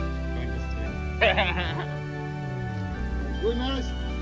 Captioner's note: laughing